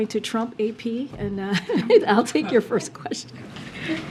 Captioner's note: laughs